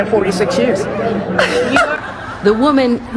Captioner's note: laughs